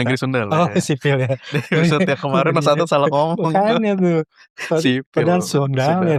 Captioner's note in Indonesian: tertawa